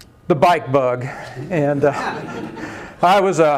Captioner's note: laughter